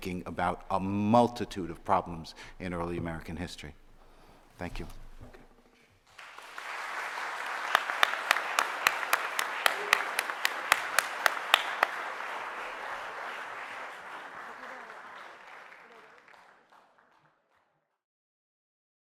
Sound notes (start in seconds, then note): 6.4 audience applauding